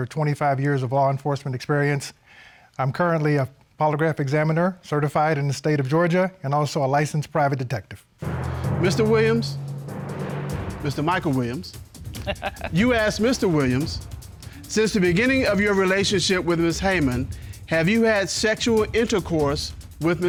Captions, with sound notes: with over 25 years of law enforcement experience. I'm currently a polygraph examiner, certified in the state of Georgia and also a licensed private detective. Mr. Williams... -Mr. Michael Williams... -[Judge Dana laughs] You asked Mr. Williams, "Since the beginning of your relationship with Ms. Heyman, have you had sexual intercourse